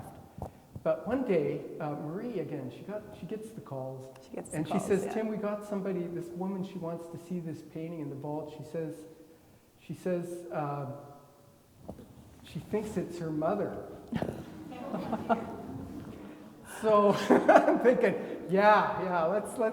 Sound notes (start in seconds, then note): 14.1 everybody laughing; 17.1 laughs